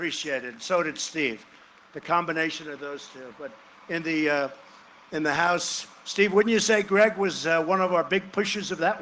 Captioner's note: cheering and applause